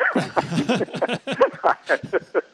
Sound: laughs

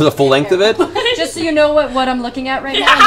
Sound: laughs

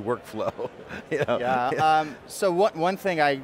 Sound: laughs

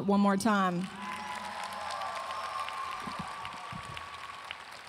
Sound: audience applauding

